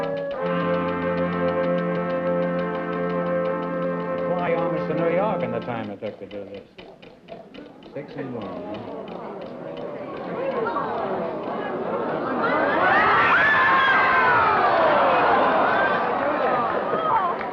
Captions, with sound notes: You could fly almost to New York in the time it took to do this. Sis and one. [AUDIENCE MURMURING] [EXCITED CHEERING]